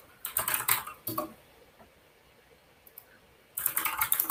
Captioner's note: keyboard clacks